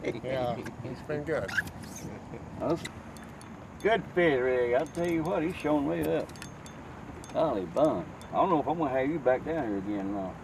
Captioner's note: ROD and Reel Sounds